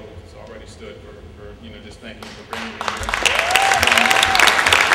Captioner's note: applause